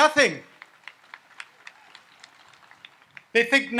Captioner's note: audience applauds